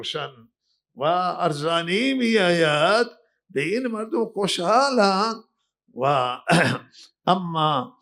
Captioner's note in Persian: گلویش را صاف می‌کند